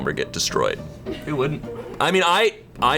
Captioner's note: colleagues laughing